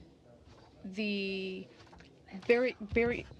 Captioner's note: speaking French